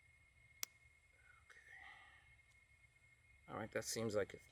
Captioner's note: clicking; sighing